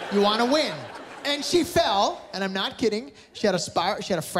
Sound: laughter

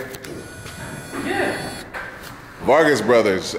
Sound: drill whirring

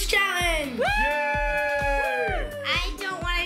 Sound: all cheer

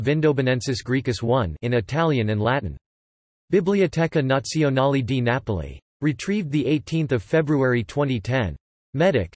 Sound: in Italian and Latin

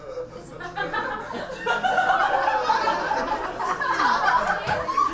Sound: audience laughs

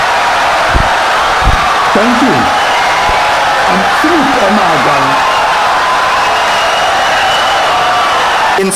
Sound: wild applause and cheering for 17 seconds

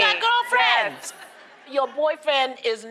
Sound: laughter

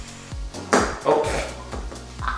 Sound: bangs

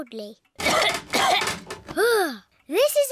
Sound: coughs

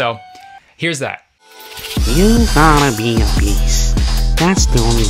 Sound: automated Voice

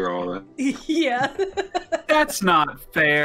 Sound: laughs

